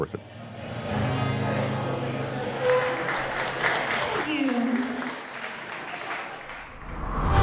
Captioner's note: audience clapping